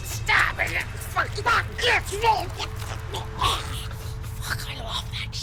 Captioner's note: groans